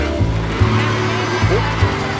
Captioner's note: crowd cheering